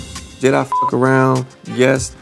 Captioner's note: beep